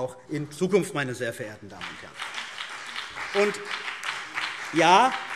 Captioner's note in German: Beifall CDU und BÜNDNIS 90/DIE GRÜNEN